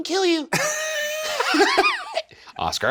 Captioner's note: Shane and Ryan laughing